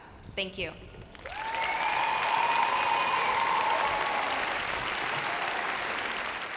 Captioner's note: audience cheering and applauding